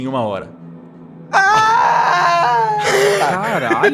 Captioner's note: scream